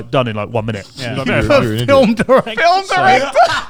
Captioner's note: laughing